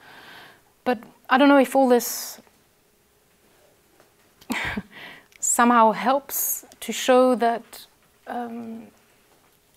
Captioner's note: laugh